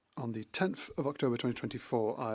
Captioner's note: speaking French